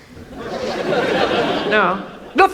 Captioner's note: audience laughs